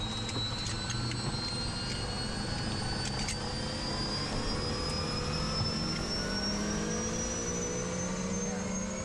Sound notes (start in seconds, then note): 0.7 seatbelt clicking